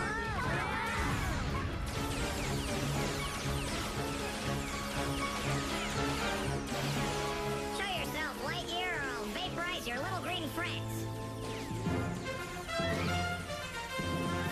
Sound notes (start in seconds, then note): 0.7 LGMs MURMUR